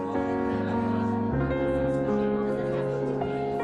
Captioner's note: lively chatter